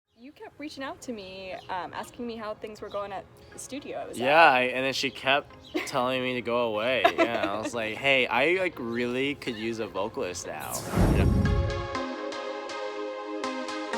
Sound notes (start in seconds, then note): 7.0 laughs; 10.6 upbeat music